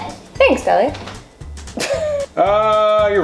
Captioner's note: laughter